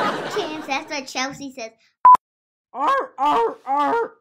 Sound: audience laughs; beeps

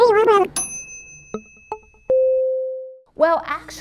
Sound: ding

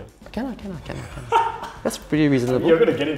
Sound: laughs

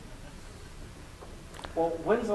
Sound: laughter

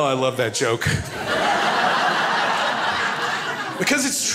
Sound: crowd laughs

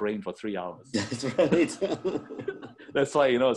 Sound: laughs

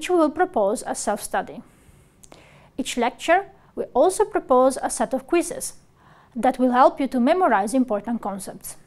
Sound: click

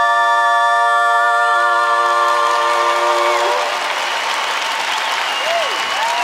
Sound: cheers and applause

